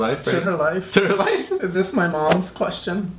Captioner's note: laughs